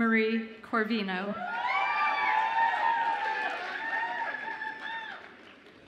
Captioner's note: audience applauds and cheers